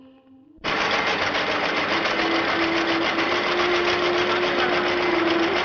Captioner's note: printing machine rumbling